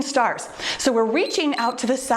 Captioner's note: timer beeps